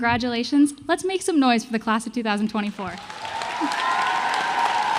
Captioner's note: applause